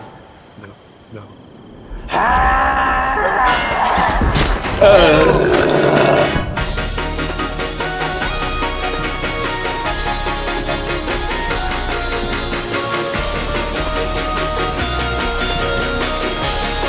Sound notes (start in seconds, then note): 0.5 quietly; 1.9 angry screech; 2.6 destruction noises